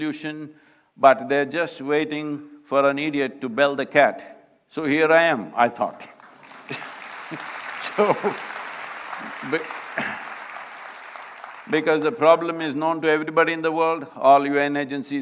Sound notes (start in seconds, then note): 8.7 applause; 10.4 laughs